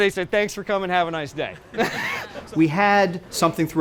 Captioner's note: laughs